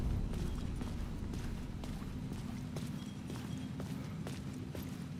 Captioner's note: wind whistling; wind whistling